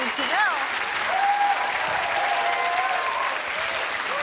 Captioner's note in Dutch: applaus en gejuich